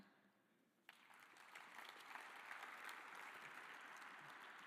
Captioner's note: audience applauding